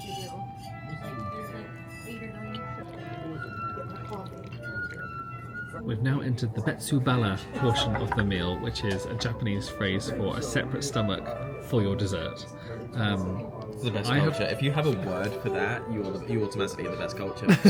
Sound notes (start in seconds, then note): 0.0 oriental music plays; 3.8 liquid pours